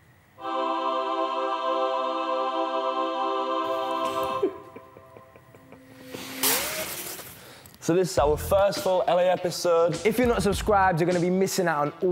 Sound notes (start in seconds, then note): 0.4 uplifting music; 4.0 laughing